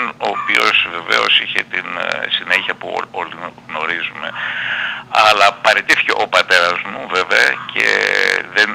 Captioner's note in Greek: ξεφυσάει